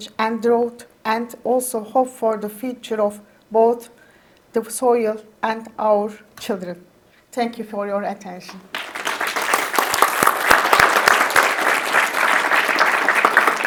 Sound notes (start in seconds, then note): 8.5 attendees clap